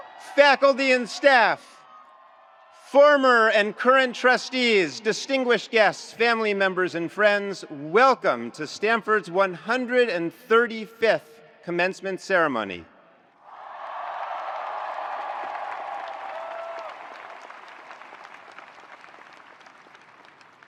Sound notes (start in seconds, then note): 13.4 attendees cheering; 13.5 attendees applauding